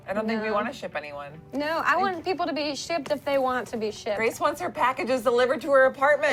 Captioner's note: none